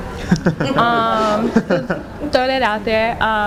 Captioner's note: laughter